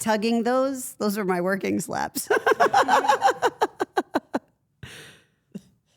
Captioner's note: Steph laughs